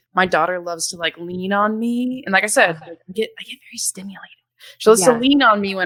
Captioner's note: murmurs